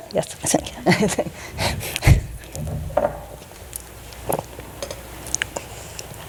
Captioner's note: laughing